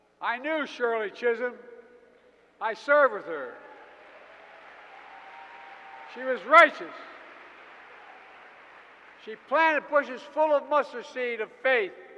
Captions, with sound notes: I knew Shirley Chisholm. I served with her. (Applause.) She was righteous. She planted bushes full of mustard seed of faith.